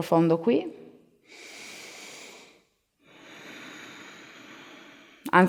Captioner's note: inhale-exhale